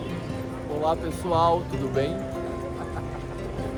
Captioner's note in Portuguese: risos